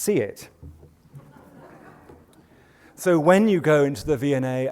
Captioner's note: laughter